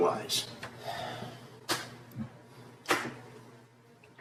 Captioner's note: Mike sighs